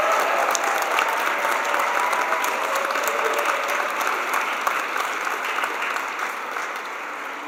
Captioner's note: cheers and applause